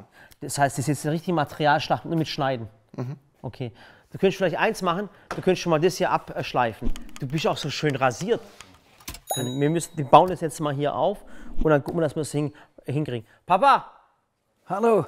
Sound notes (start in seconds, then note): 9.2 Klingeln